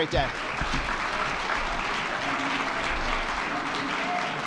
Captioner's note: attendees clapping